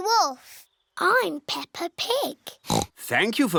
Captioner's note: oinks